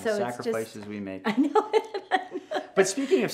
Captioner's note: laughs